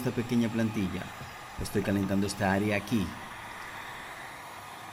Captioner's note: Se oye la pistola de calor